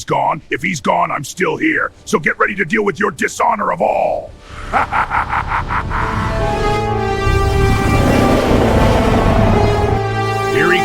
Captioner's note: evil Laughs